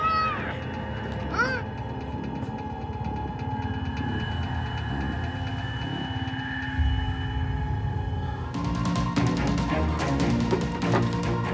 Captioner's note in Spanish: gritos